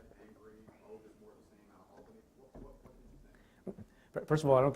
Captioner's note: stutters